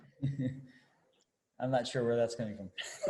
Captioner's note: laughing